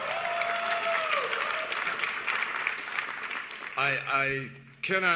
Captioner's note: cheers and applause